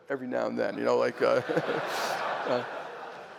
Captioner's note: laughter